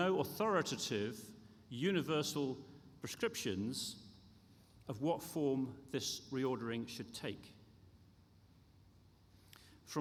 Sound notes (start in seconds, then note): none